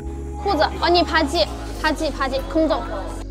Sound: Korean

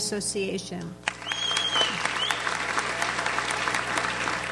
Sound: audience applauds

